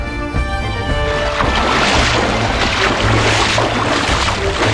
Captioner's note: water sloshing